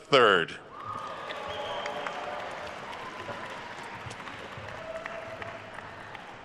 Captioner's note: attendees cheering and applauding